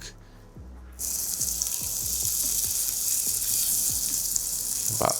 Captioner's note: pan sizzling